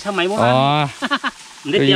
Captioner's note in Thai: หัวเราะ